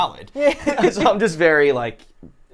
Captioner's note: laughs